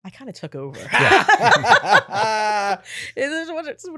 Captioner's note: laughing